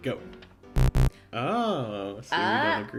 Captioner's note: low buzzing